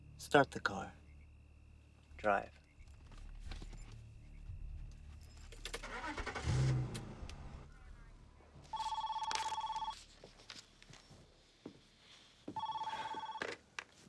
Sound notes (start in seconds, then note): 5.6 engine turns over; 8.7 telephone ringing